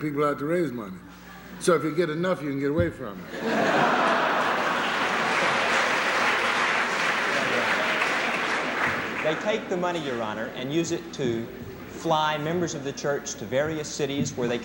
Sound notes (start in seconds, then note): 3.2 laughter; 6.0 applause